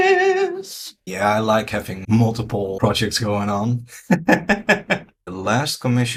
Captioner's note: laughs